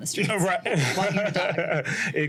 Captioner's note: laughs